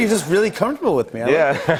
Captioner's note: laughter